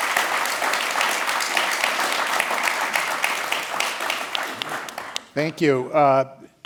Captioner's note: applause